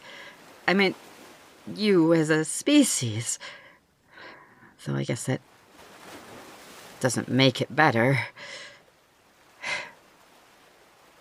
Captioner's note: sigh